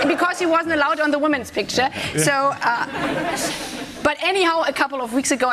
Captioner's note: laughter